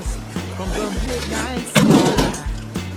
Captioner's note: thud